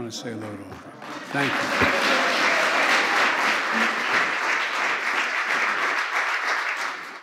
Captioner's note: applause